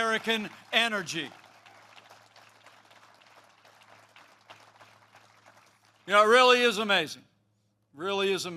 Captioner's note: applause